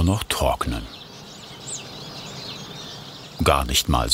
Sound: birdsong in many voices

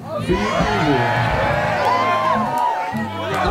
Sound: crowd cheers; music swells

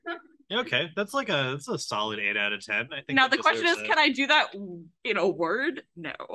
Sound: golf claps

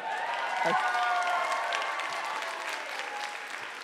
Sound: audience cheers

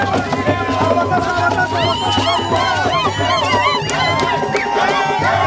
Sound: crowd; drums Beat

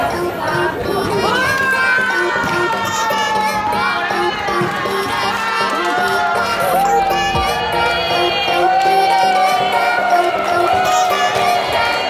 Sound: cheering

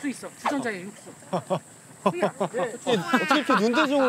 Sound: laughs

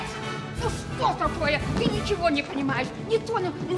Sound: speaking Russian

